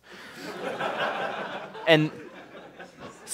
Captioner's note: laughter